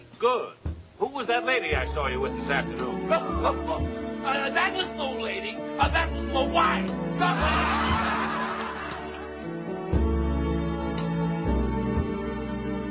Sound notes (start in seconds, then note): 3.7 laughs; 7.2 audience laughing; 9.3 somber music continues